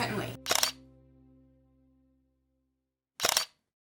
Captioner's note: shutter sound